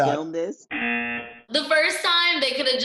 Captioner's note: buzzer